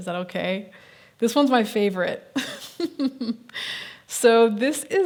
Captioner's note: laughs